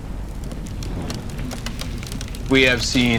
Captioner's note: embers burning, popping